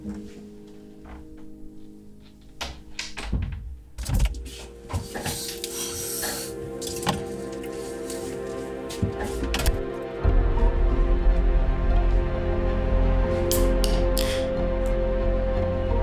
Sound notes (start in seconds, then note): 2.3 door closes; 6.1 tense music; 13.5 can pops